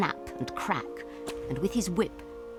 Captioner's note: wind blowing